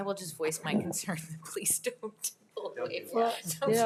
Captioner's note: mumbling